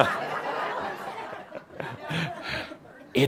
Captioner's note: some chuckles